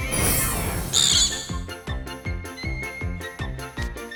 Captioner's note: screech